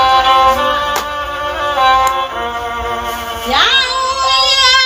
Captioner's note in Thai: ปรบมือ